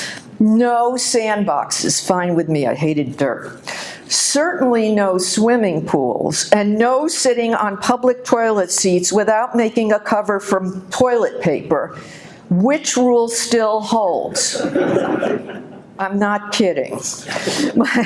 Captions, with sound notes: No sandboxes, fine with me, I hated dirt. Certainly no swimming pools and no sitting on public toilet seats without making a cover from toilet paper, which rule still holds. (audience laughing) I'm not kidding.